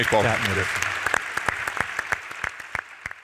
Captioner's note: applause